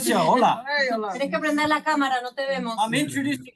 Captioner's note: speaking in Spanish